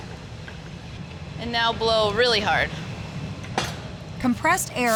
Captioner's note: whooshing sound